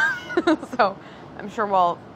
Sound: laughing

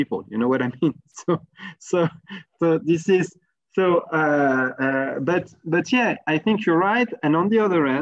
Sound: laugh

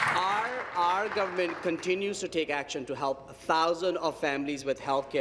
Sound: applause

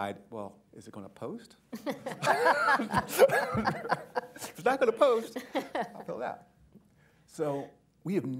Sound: laughter

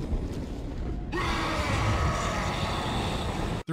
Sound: sudden and obnoxiously loud screaming

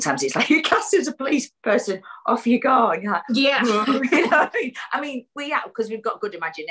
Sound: laughs

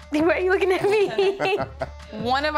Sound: laughs

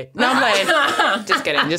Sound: both laughing

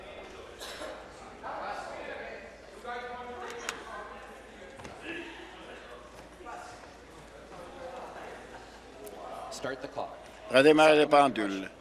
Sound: conversation din

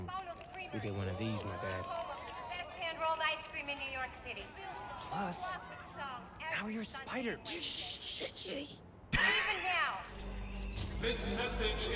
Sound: laughs

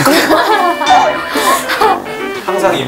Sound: all start laughing for the pep talk

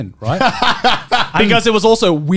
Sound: laughing

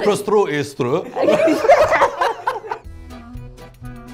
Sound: people laughing; lively music

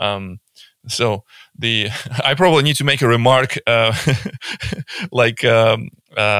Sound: laughing

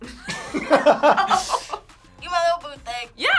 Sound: laugh

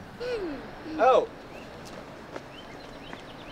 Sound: clears throat

